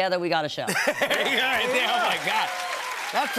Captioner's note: cheers and applause